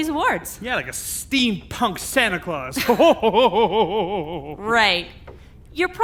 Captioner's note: laughs